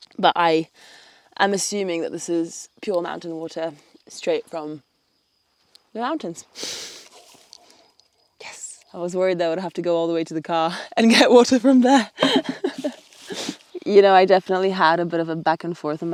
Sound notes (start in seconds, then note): 11.9 laughs